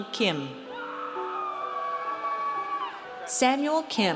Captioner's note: audience cheers